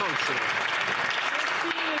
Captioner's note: some Applause